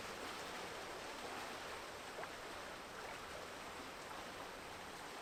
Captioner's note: water flowing